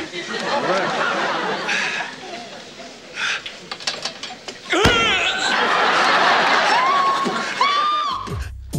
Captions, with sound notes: (audience laughing) - All right. (screaming) - Help! Help!